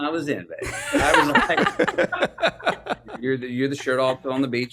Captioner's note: laughs